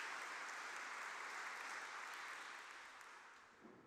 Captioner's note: applause